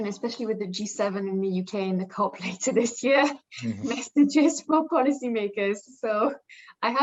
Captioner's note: laughing